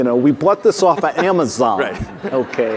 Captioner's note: audience laughing; laughs